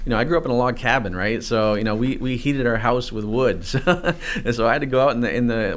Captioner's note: chuckles